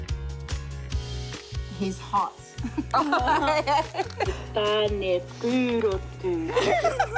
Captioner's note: laughter